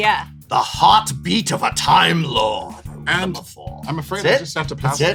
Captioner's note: in cool voice